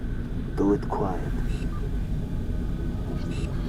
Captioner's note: radio